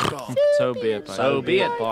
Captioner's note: distant, hardly listening